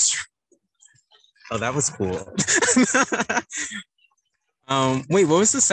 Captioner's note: laughs